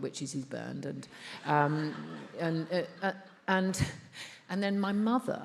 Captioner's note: attendees laughs